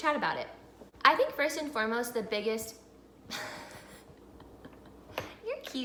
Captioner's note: laughing